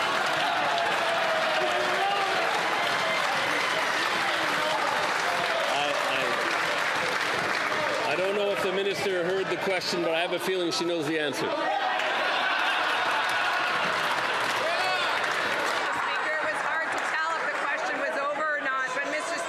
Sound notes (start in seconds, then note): 7.3 some Applause